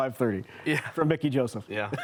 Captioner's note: chuckles